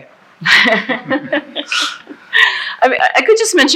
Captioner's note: laughing